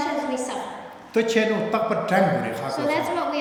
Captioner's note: speaking tibetan